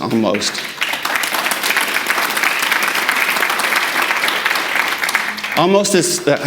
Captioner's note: audience applauding